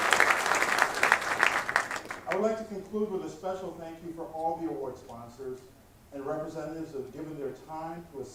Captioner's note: applause